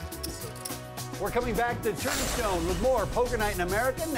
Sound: voiceover

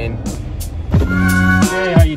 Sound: window rolls down

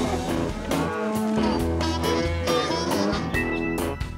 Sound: cows moo

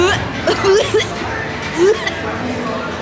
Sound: gags; more gagging

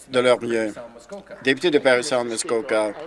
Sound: applause

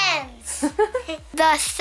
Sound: laughs

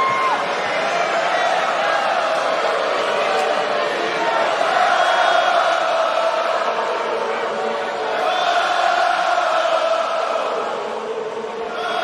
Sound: cheering

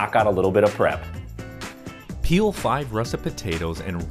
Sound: voiceover

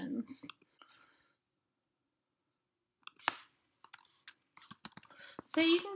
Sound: keyboard noises

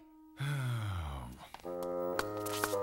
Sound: sighing

